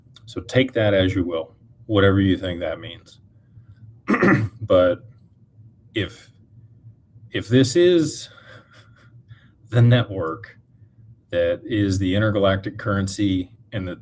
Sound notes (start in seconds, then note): 4.0 clears throat